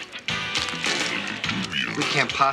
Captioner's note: deep Voice